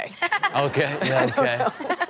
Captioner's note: Chanel laughs